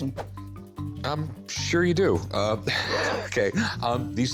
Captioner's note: laughs